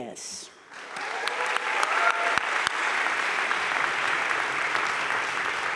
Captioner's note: crowd cheering and applauding